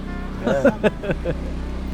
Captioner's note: laughs